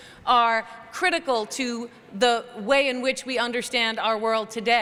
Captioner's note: none